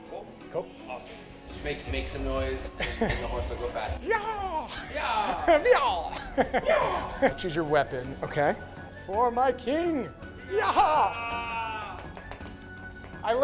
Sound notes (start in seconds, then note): 3.8 yells playfully; 11.0 yelling playfully